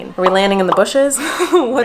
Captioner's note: laughing amusingly